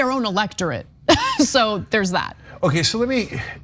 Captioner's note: laugh